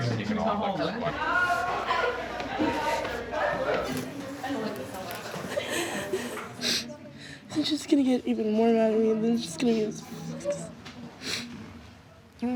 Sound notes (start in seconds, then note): 3.9 girl cries; 9.4 sobbing